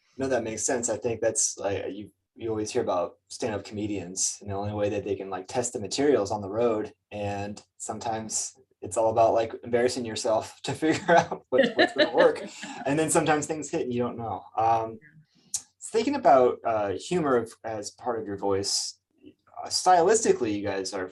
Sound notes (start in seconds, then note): 10.7 chuckles; 10.8 laughing